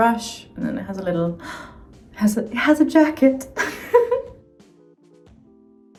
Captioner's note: laughs